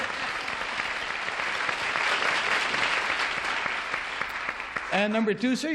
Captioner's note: applause